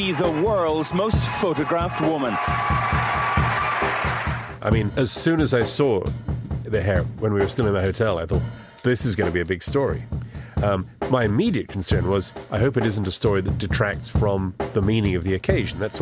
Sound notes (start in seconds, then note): 2.9 applause